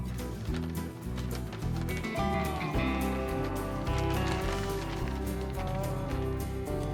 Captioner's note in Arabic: تجعيد الورق